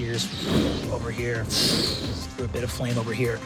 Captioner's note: fire whoosh